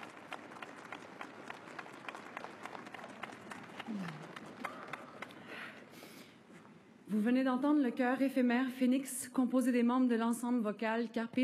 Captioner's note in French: applaudissements